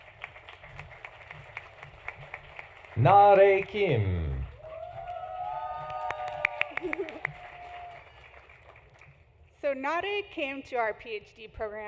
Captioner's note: applause